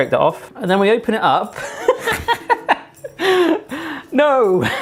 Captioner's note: laughs; laughs